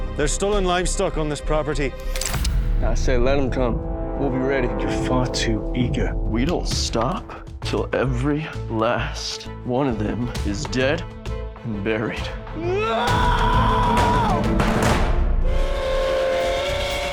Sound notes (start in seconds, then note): 12.6 shouting, gunfire; 15.4 train whistle